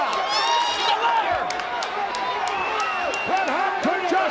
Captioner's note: applause